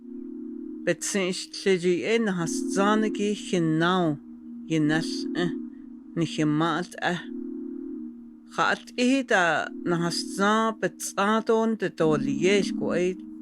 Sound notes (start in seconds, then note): 0.9 non-English speech